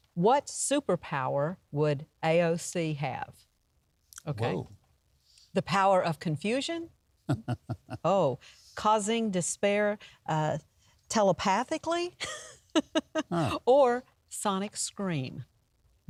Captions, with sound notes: What superpower would AOC have? Okay. - Whoa. - The power of confusion. (soft chuckle) Oh, causing despair telepathically (chuckles) Or sonic scream.